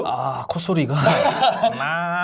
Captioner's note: laughing out loud